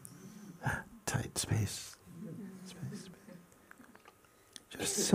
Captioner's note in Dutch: hapt naar lucht